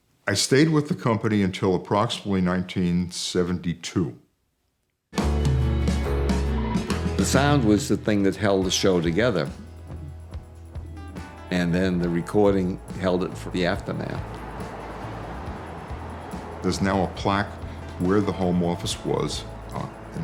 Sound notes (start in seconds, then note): 5.2 gentle rock music; 14.4 crowd cheering